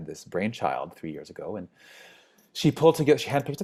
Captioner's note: inhales